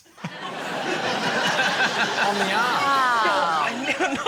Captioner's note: laughter; comedians exclaim